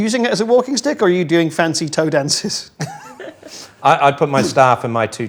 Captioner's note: laughs